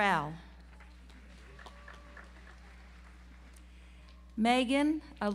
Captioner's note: audience applauds